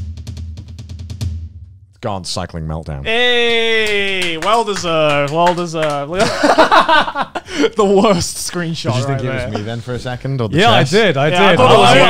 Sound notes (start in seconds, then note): 0.0 drum rolls; 4.8 clapping